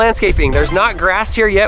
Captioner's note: power up sound